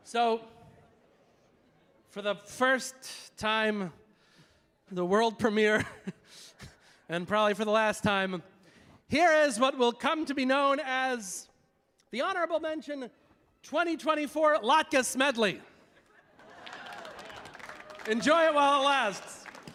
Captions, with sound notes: So for the first time, the world premiere [laughing] and probably for the last time, here is what will come to be known as the Honorable Mention 2024 Latkes Medley. [audience laughing] [audience applauding] Enjoy it while it lasts.